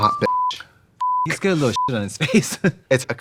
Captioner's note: beeping